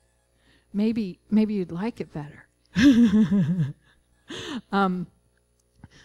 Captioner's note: laughing